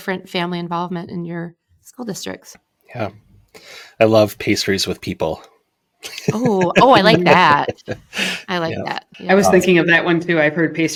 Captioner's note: laughter